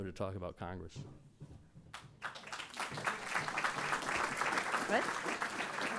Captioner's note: applause